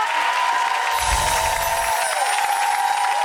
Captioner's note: cheering